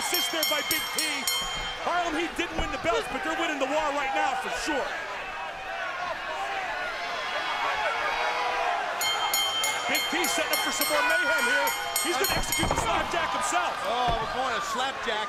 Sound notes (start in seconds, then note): 6.0 crowd cheering; 9.0 bell ringing